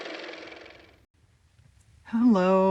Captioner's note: car motor